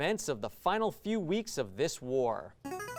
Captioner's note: ring-in sound